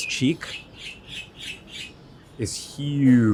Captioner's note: wildlife chirps